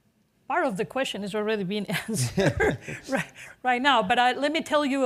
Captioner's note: chuckles